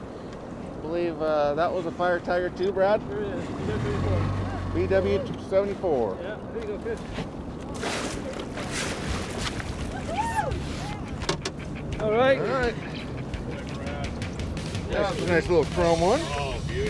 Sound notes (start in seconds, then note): 7.7 fish splashing; 8.9 clanking